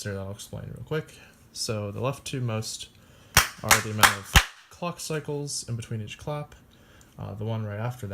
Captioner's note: clapping